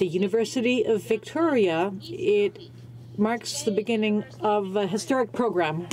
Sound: speaking french

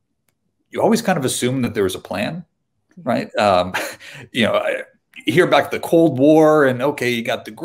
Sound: chuckle

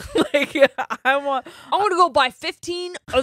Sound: both laughing

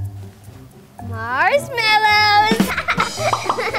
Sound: laughs; cymbals clashing; drums beating

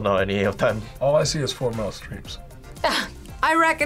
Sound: chuckles

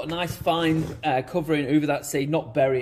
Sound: pot shuffles

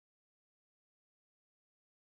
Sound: none

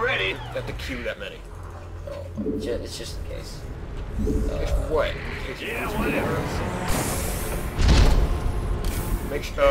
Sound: yelling

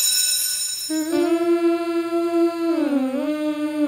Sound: humming

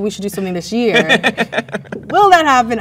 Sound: man laughs

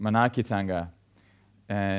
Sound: man speaks in foreign language

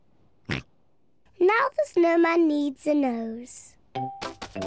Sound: snorts

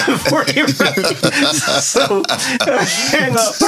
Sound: laughing

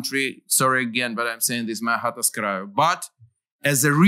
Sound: non-english

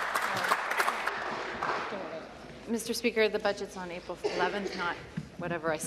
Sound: applause

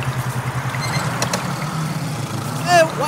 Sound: engine roaring

